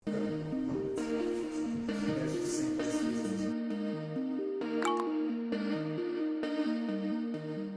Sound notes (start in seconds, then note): 0.0 crew talking quietly